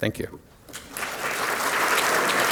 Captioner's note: applause